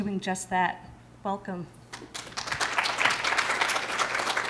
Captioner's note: applause